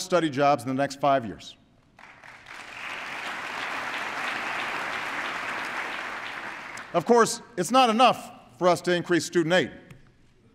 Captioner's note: applause